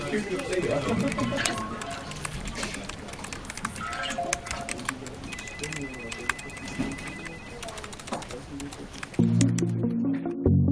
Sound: office noises

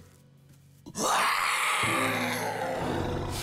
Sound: growling

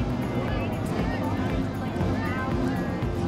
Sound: crowd noise

